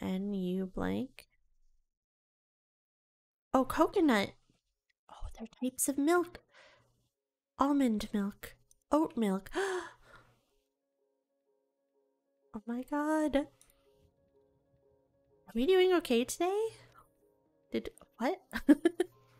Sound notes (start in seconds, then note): 9.6 gasps in delight; 18.5 giggles